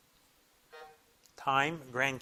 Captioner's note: buzzer blips